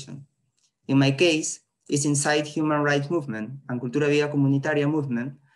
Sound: spanish

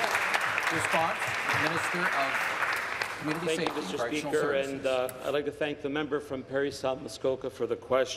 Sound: applause

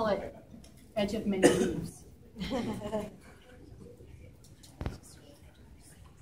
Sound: laughter

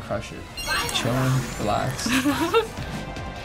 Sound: chuckling

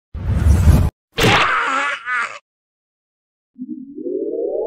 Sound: ahhh

